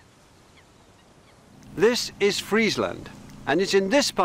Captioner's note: birds chirping